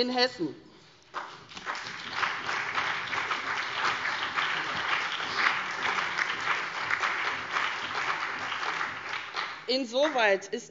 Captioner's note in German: Beifall CDU, BÜNDNIS 90/DIE GRÜNEN und SPD